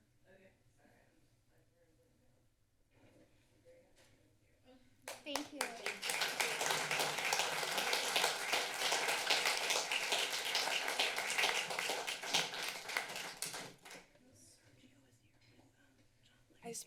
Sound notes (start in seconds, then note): 4.8 applause; 13.8 whispers